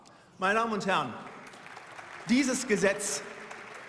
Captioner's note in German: Beifall